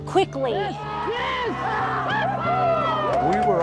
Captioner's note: cheering